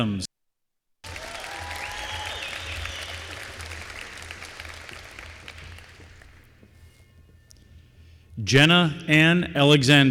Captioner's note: applause